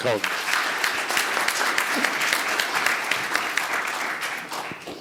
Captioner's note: audience applauding